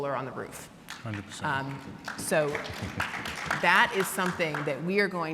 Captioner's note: audience clapping